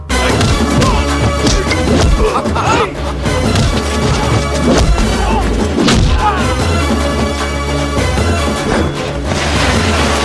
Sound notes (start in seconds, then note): 2.0 laughs